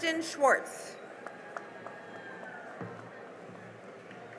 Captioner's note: cheering and applause